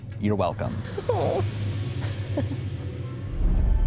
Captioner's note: laughing